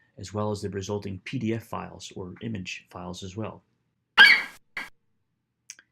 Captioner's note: FlightCheck eagle screeches